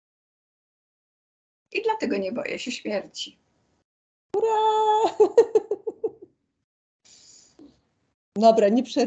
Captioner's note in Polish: śmiech